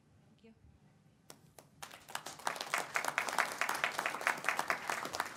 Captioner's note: audience applauds